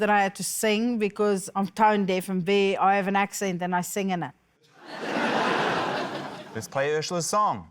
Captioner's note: laughter